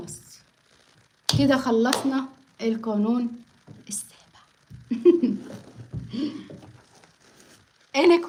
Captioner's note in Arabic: ضحك